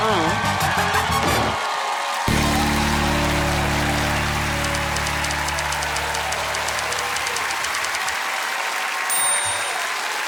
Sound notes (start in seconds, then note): 0.7 cheering and applause; 3.1 audience applauding; 4.6 typewriter keys clacking